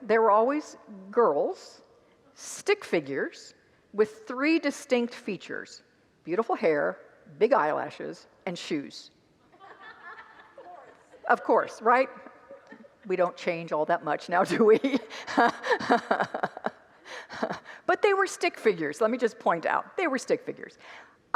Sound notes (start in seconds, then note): 9.6 congregants laugh; 14.5 laughs